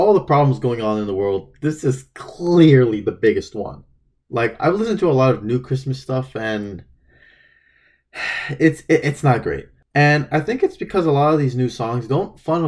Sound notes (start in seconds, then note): 8.1 sigh